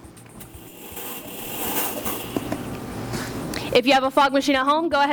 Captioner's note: fog machine rumbling